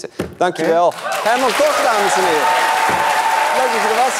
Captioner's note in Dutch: applaus en gejuich